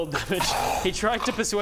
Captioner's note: hrrgh